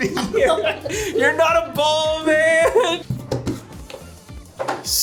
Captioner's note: laughs